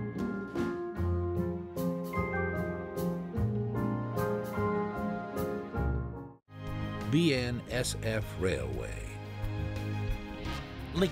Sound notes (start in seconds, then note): none